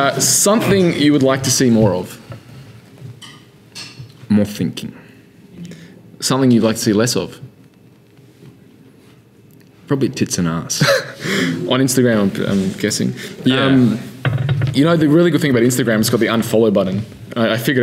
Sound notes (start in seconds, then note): 10.8 laughing